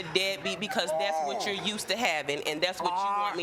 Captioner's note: groans